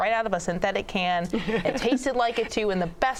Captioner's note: laughs